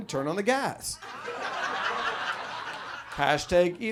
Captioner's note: audience laughs